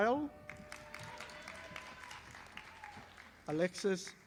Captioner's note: audience applauding